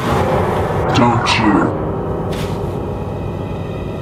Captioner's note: in a strange voice